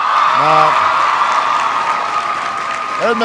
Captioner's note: applause